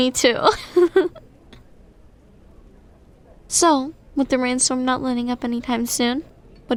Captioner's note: soft laugh